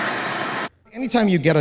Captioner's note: static buzzing